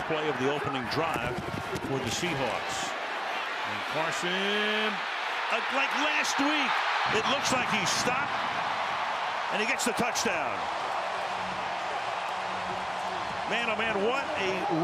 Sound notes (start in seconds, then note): 11.4 cheering